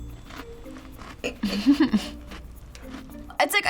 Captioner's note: chuckles